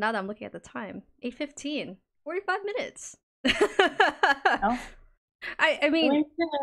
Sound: laughs

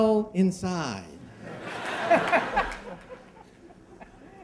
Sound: laughing

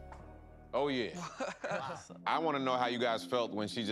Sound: chuckles

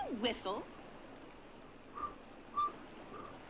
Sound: Jens whistles

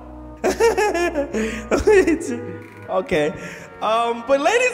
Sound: chuckles

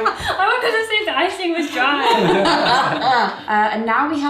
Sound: laughing

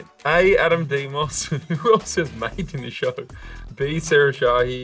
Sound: Adam chuckling

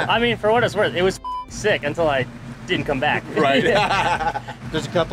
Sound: beep

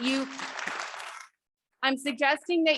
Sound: audience clapping

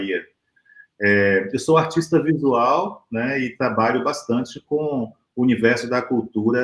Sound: speaks portuguese

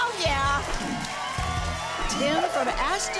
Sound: audience applause

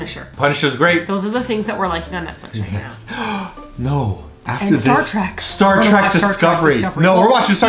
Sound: gasp

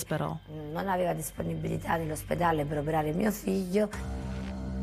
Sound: speaking in Italian

